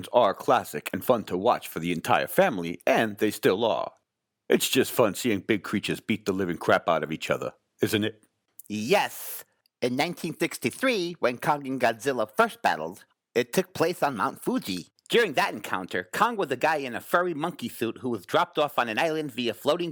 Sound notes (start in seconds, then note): none